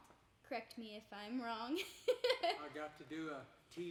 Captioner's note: laughing